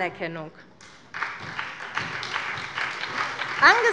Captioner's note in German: Beifall